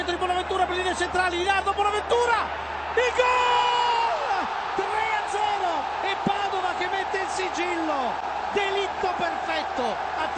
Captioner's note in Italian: Applauso